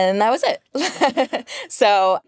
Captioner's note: laughing